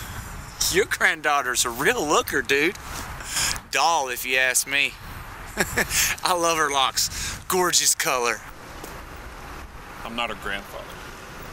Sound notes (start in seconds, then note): 5.5 laughs